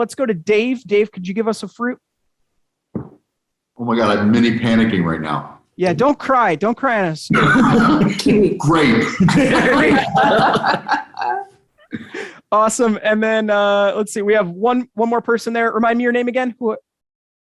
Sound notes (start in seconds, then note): 7.3 chuckling; 10.7 all laughing